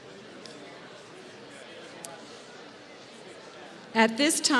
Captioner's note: none